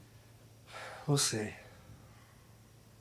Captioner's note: sighs